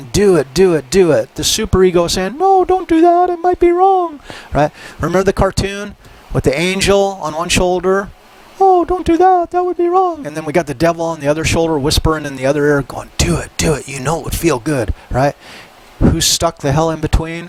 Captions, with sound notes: do it, do it, do it. The superego is saying, no, don't do that! It might be wrong, right? Remember the cartoon -- with the angel on one shoulder. [Uses tiny voice] Oh, don't do that. That would be wrong! And then we got the devil on the other shoulder whispering in the other ear and going "do it, do it, you know it would feel good", right? Who's stuck the hell in between?